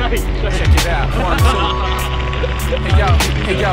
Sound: laughs

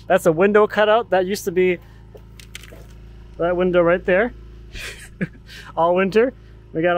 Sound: laughs

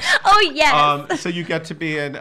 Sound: laughs

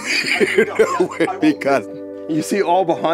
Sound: laughs

